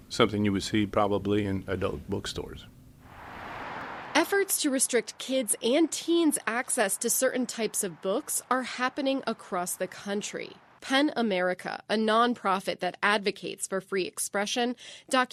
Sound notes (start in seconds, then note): 4.7 voice-over